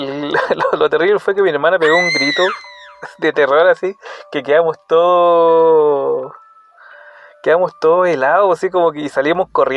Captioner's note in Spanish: grito